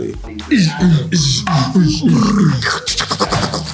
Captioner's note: mouthing sound effects